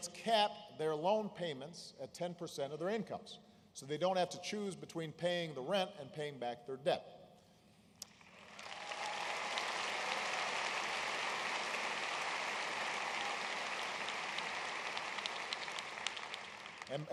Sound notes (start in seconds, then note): 10.4 applause